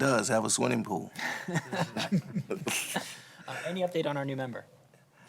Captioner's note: laughter